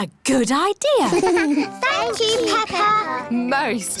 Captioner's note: all giggle